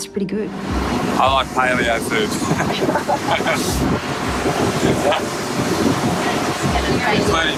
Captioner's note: laughs